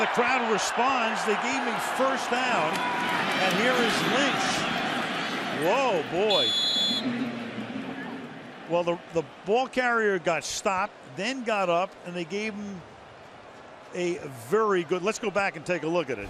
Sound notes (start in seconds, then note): 6.2 whistle blows